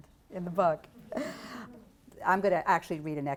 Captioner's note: laugter